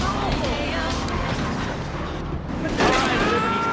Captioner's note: sirens wailing; screaming